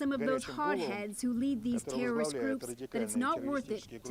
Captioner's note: speaking Foreign Language